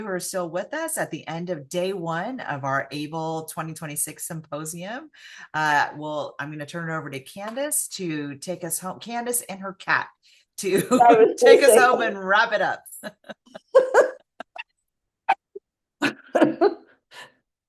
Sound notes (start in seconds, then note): 12.9 both laugh; 12.9 laughs